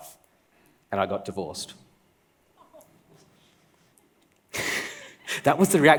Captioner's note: laughs